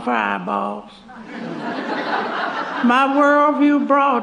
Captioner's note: laughter